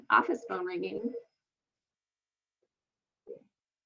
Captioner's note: phone ringing